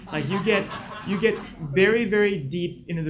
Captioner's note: audience laughs